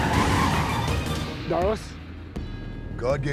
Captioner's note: tires screeching